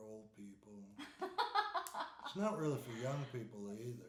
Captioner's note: laughing